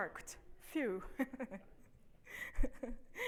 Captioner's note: laughs